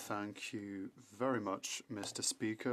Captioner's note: speaking French